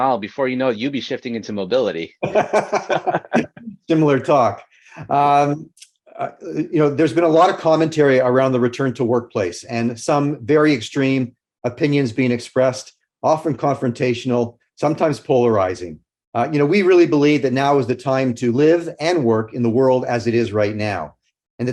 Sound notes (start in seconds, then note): 2.2 laughs